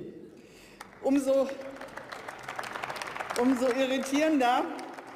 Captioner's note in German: Beifall